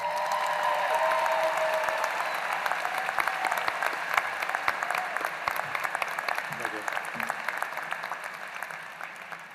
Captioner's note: applause